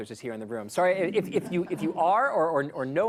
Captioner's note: laughter